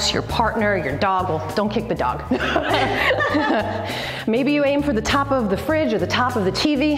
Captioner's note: both laugh